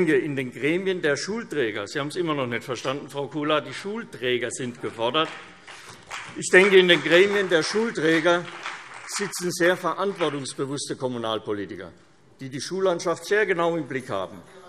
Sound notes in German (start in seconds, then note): 4.8 Beifall CDU und BÜNDNIS 90/DIE GRÜNEN